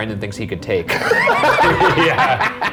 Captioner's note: everyone laughing